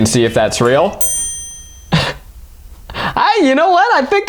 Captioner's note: bell ringing